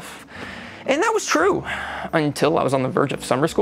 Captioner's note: exhales